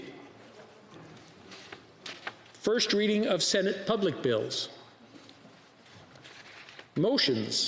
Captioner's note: speaking French